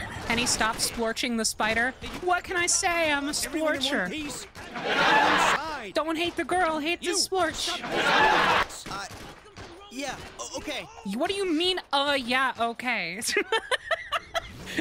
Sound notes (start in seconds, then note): 4.6 canned laughter; 7.8 canned laughter; 13.2 laughing